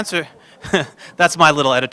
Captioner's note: laughter